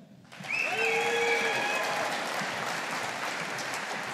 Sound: audience applauding

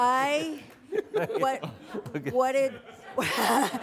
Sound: stammering

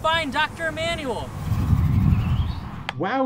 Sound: whirling

